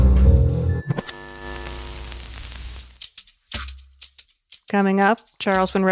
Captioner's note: lighthearted music; transmission buzzes